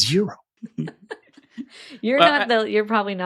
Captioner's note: chuckles